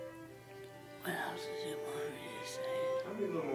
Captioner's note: whispers